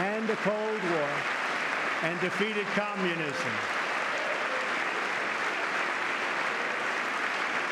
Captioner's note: applause